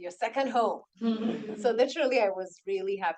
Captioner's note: attendees laughs